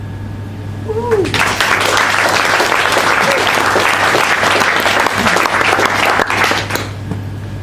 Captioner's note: applause